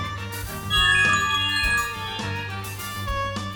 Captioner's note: smart notification chimes